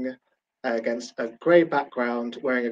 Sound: none

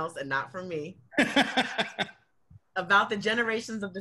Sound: laughs

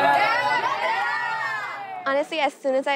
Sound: group cheering

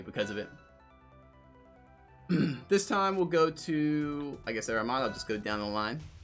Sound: clears throat

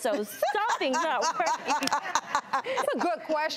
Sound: laughing

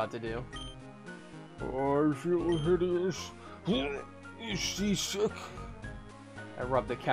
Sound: old man voice

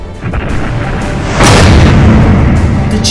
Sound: slam!

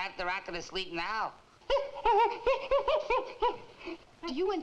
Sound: gorilla screeching

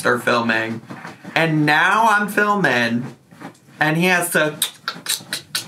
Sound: clicks tongue

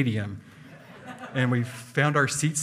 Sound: hearty laughing

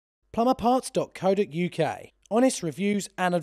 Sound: voiceover

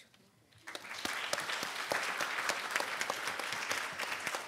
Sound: audience applauding

